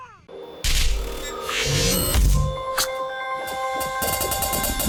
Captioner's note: electronic tones and smashing